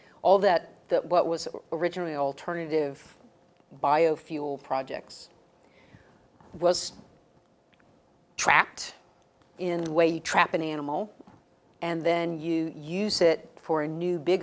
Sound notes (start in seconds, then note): none